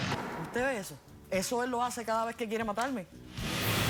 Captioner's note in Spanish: tiroteo intenso